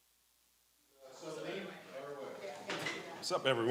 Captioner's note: chatter